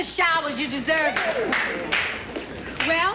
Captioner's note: clapping